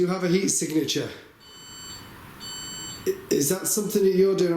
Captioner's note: device beeps